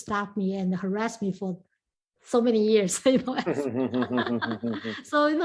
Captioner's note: laughs